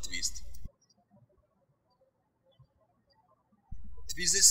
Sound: birds chirping

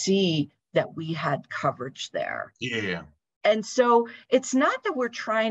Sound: talking

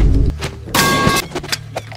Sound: metal Pipe Effect

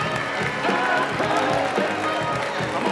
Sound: cheers and applause

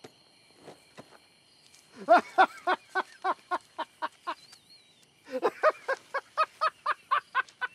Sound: laughing

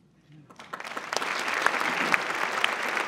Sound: applause

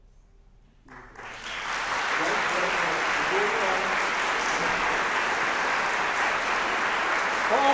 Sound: applause

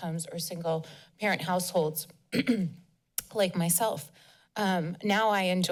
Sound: clears throat

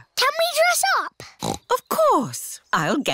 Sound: snorts

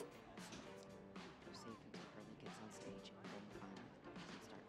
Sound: television chatter

